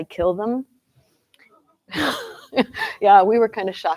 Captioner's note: laughter